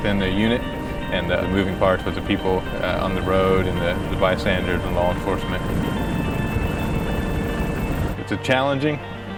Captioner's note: sound of helicopter rotors